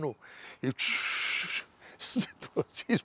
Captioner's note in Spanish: Ríe